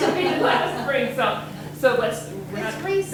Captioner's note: everyone laughing